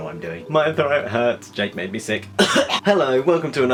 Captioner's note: coughs